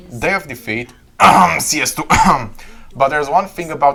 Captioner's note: ehem